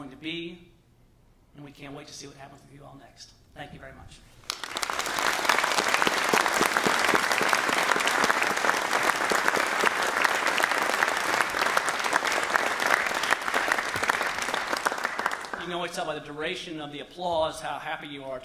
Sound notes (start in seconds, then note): 10.3 applause